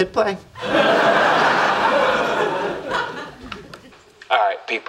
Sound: audience laughing

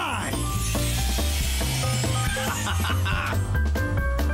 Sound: laughter

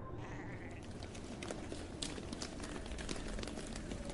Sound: footfall

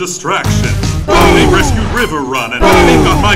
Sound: boom!

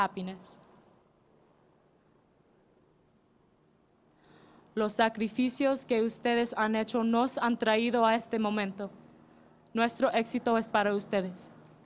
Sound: speaking in Foreign Language

